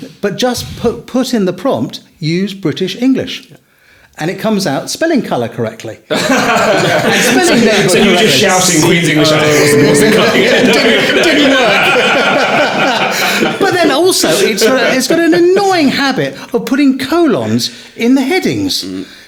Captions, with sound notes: but just put in the prompt, use British English. And it comes out spelling "colour" correctly. (all laughing) So you just shouting Queens English at it wasn't cutting it Didn't work! But then also it's got an annoying habit of putting colons in the headings.